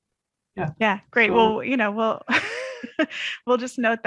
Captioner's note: laughs